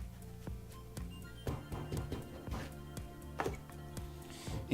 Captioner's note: mellow music; banging